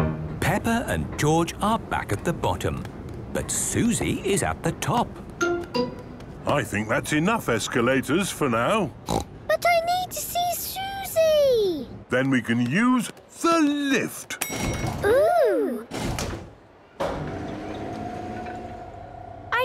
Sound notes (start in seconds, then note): 14.5 lift pings; 17.0 lift moving